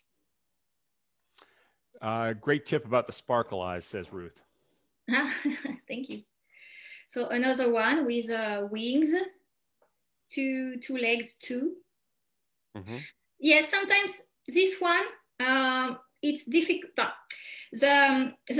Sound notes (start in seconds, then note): 4.9 chuckles